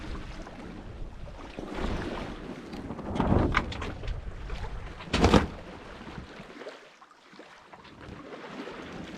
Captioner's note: sails flapping